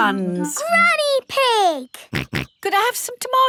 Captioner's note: snorts